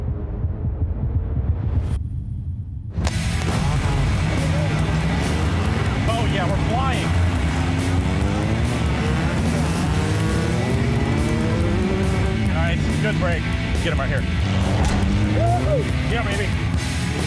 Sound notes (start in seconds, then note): 2.0 echoes; 3.6 gunshot, cars rev; 8.3 car revs, speeds off; 14.7 cars crash